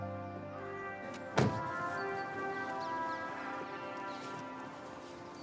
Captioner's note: door clattering